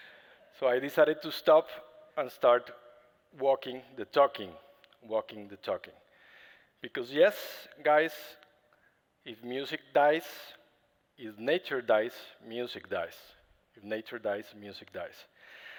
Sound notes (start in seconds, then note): none